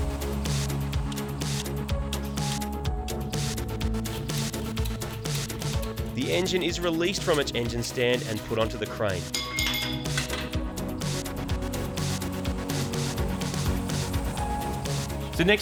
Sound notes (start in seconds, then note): 1.0 gear selector ticking; 9.3 metal bar clatters